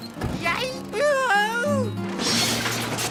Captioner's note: shouts